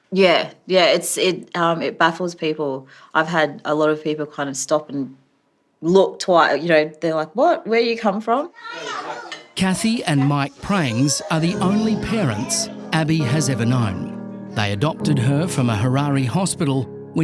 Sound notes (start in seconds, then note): 8.6 people chattering